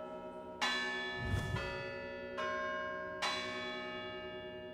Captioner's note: bell Ringing